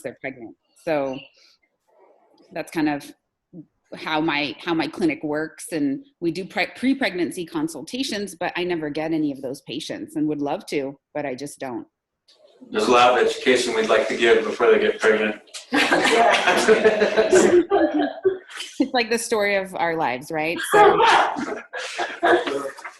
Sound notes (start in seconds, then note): 15.5 laughs; 20.6 laughter